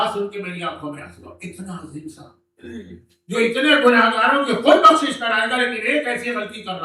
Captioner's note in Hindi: गला साफ़ करने की आवाज़